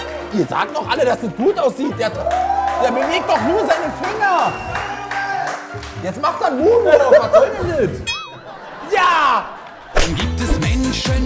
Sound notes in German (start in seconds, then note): 2.5 Jubel, Applaus